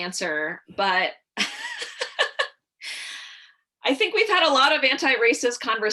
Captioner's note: laughter